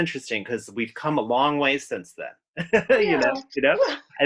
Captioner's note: laughs